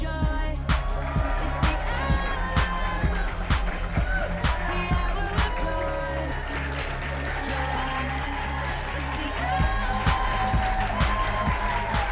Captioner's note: applause